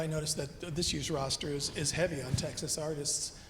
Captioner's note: none